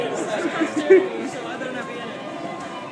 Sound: still more giggling

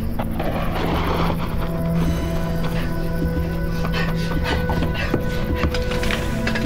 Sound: shoes skidding; Jamie panting

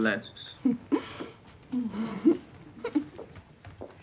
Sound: giggling

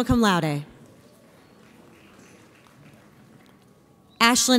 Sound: audience applauds

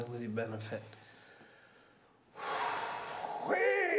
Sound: exhales

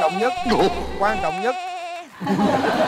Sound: sudden goat sound effect

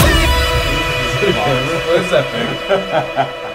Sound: laughing

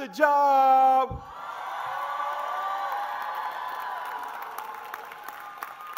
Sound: crowd cheers

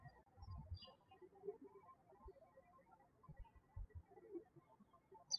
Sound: birds chirping

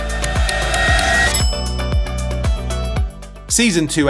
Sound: timer ticking; bell dings

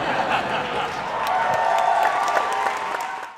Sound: applause

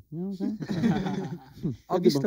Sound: laughs

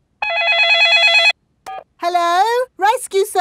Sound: dialing; cell phone ringing

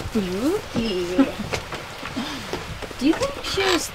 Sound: Naomi laughs

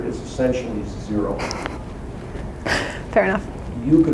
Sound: chuckles

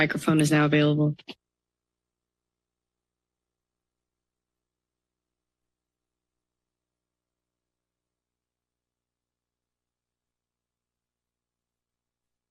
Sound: silence

